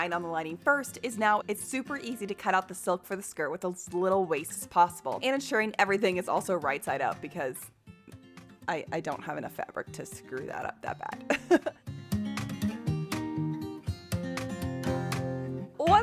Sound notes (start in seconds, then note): 11.1 laughs; 11.9 upbeat music